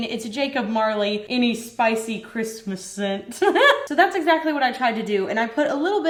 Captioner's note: laughs